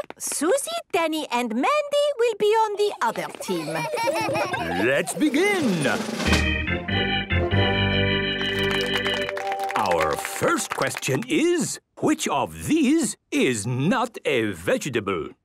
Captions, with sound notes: Suzy, Danny, and Mandy will be on the other team. - Hee hee hee! - Let's begin! - (gameshow music) - (clapping) - Our first question is, "Which of these is not a vegetable?